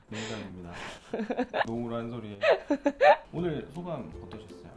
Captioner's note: just laughs